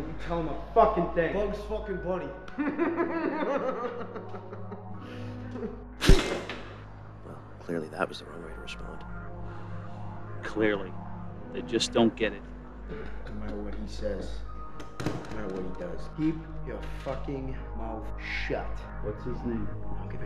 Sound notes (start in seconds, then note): 2.5 laughs; 6.0 strike cracking